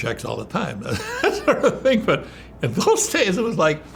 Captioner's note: laughs